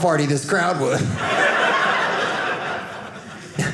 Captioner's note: audience laughing